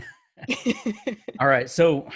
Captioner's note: both laughing